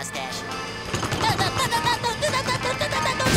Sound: groaning

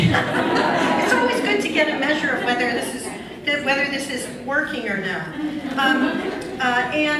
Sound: laughs

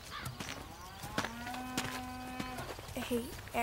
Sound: cow mooing

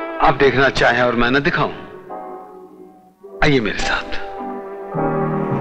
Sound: none

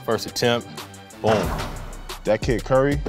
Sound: ball dunking

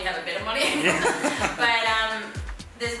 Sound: laughter

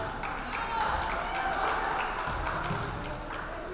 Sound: crowd clapping

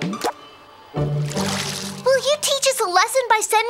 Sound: playful instrumental music; water splashes

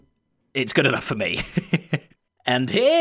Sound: chuckles

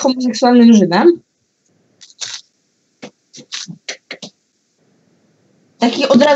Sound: Sounds of the Rubik's Cube

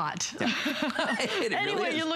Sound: laughter

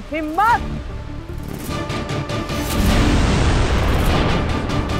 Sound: swish

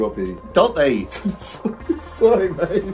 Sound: host laughing

